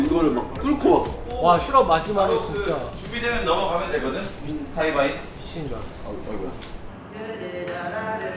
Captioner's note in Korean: 감동 514배였던 몬베베 함성